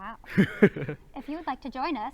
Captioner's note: laughs